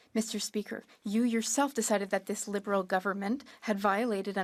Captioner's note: speaking French